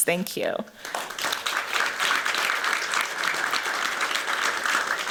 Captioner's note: applause